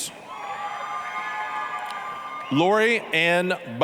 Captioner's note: applause, cheering